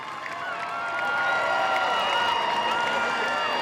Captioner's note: cheering